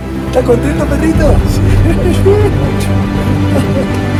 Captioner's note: laughs and jokes